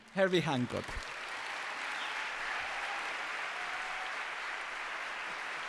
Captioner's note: applause